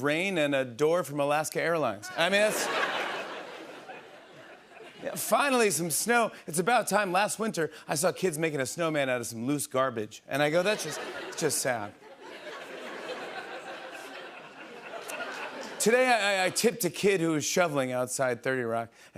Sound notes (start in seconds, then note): 2.1 laughter; 12.4 laughter